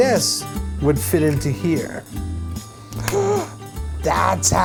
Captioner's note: gasp